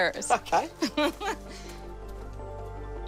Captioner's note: laughs